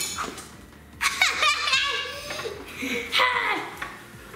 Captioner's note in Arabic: يضحك